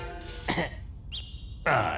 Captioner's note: cough